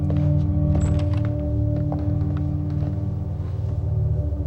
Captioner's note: door opens